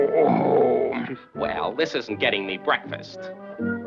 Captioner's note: yawning